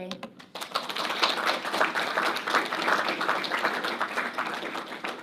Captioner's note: audience applauding